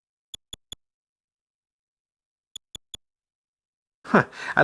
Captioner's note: soft, high-pitched clicks